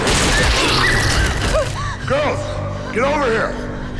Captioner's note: dramatic music; guns blasting